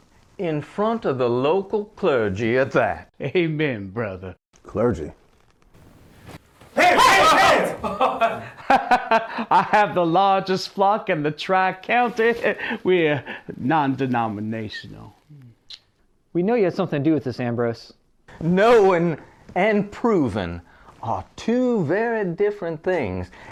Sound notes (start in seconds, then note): 8.6 laugh; 15.6 kiss